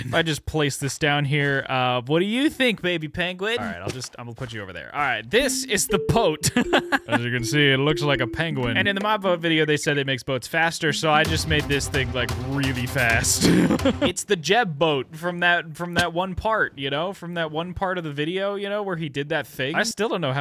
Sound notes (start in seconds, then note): 7.0 laughing